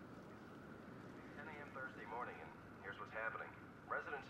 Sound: man On Radio

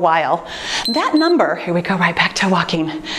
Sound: timer beeps

